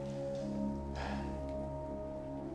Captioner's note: sighs